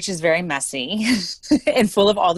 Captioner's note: chuckles